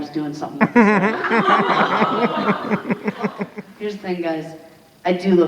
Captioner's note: audience laughing